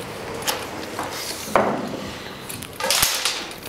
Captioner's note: soft clatter